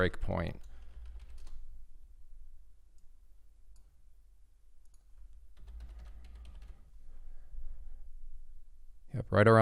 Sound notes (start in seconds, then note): 0.5 keyboard clicking; 4.8 mouse clicking; 5.2 keyboard clicking